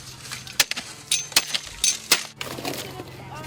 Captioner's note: spade cutting